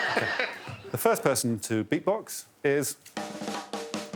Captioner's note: all laughing